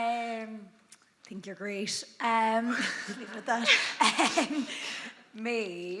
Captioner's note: chuckles